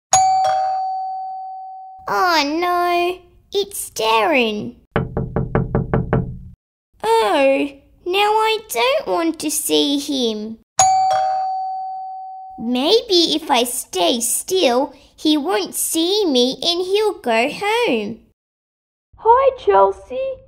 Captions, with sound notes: (Doorbell) Oh no, it's Darrin! (Knocking) Oh, now I don’t want to see him... (Doorbell) Maybe if I stay still he won’t see me and he'll go home Hi Chelsea!